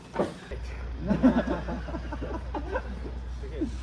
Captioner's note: laughter